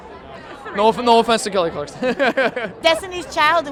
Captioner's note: laughter